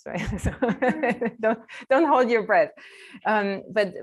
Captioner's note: chuckles